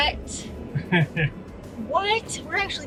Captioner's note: laughing